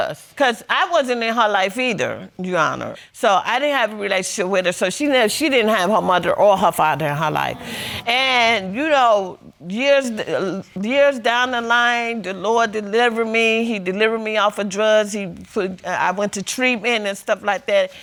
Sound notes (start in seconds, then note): 8.0 audience exclaims